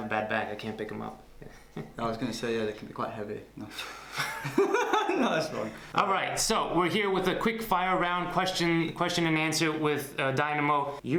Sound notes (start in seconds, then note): 1.9 chuckles; 4.0 both laugh